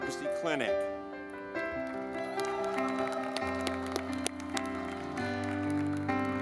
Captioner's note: gentle music; audience clapping